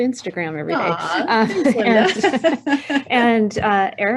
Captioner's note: both chuckling